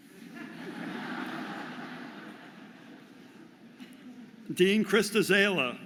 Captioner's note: audience laughing